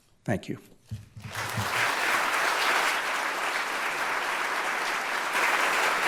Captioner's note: audience applauding